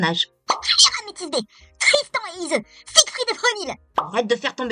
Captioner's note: coughs